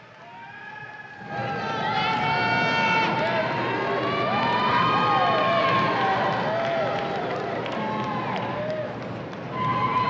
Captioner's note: audience cheering